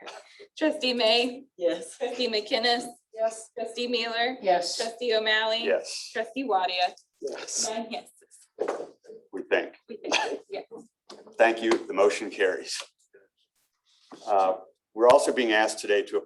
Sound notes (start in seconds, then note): 10.7 laughter